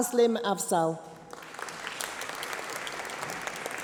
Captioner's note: applause